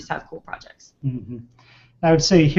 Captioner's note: vocalization of agreement